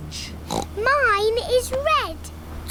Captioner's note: oinks